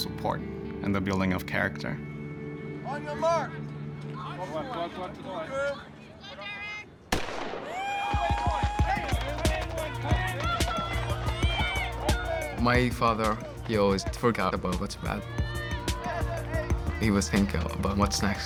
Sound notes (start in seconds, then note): 6.9 cheering and shouting; 7.1 gunshot